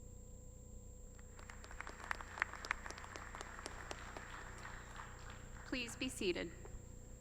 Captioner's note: applause